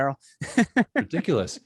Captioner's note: laughing